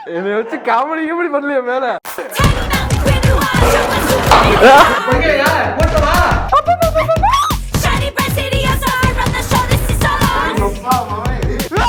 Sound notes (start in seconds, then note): 2.3 powerful punches